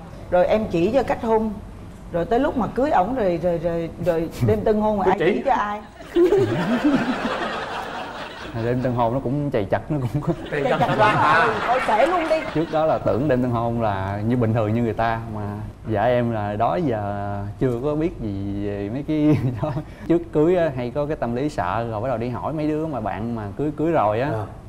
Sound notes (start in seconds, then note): 6.0 laughing